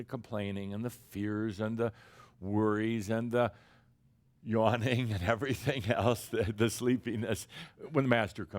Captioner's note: someone yawns